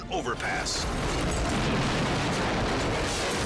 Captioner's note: bridge crashing; scene swooshing